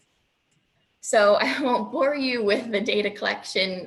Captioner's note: chuckling